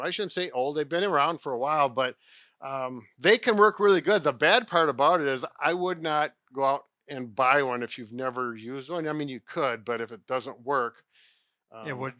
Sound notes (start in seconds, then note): none